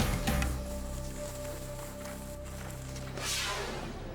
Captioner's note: snow scraping; air whooshes